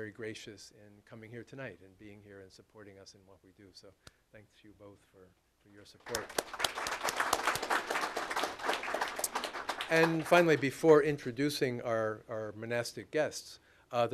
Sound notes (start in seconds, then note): 6.0 applause